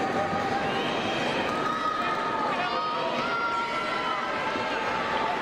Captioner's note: crowd cheering